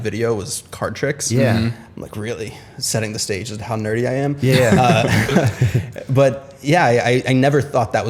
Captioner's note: laughter